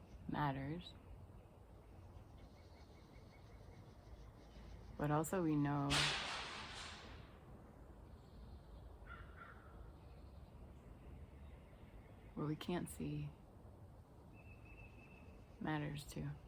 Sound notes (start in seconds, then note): 5.8 crash